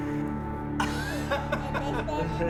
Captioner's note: laughs